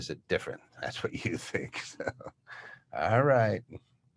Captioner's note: laughs